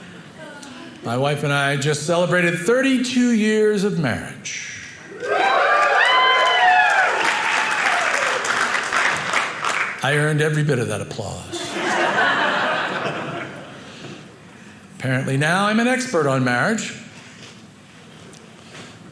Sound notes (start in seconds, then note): 5.0 audience cheering; 11.5 audience laughing